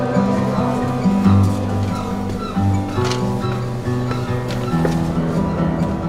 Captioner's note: footsteps